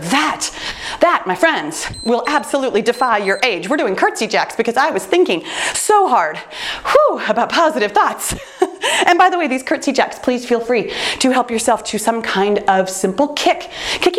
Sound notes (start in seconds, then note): 1.8 timer beeps; 8.6 laughs